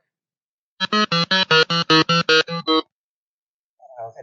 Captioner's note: model beeps to " "